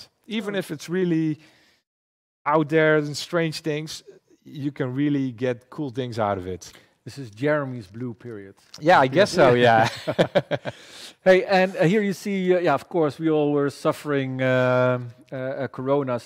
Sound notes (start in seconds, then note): 9.4 laughs